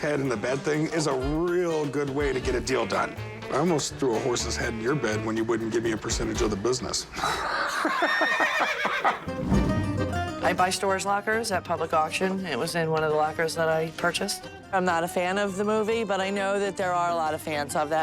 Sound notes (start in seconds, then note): 7.2 laughs